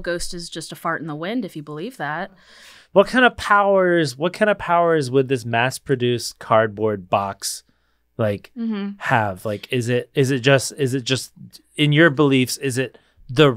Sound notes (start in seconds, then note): none